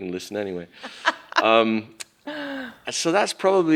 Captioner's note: laughs